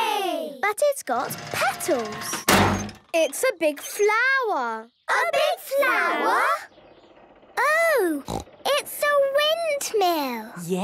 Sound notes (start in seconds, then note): 2.4 crane beeping